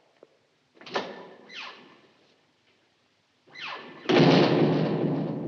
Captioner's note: door opens, closes